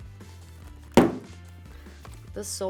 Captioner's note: boot taps